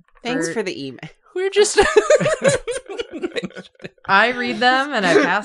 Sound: laughter

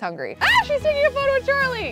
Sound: yelps

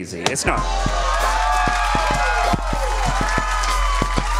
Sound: audience cheering

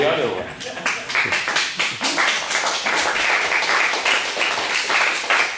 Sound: applause

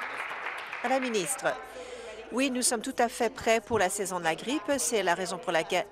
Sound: applause

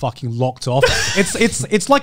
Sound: laughs

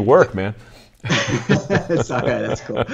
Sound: laughing

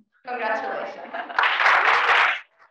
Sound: applause

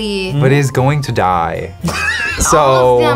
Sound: React laughs

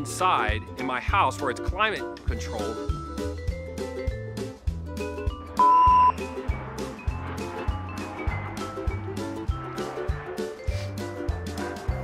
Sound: airplane jet noise

